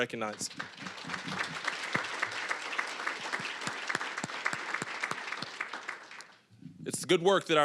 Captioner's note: applause